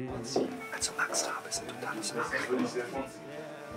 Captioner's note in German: geflüstert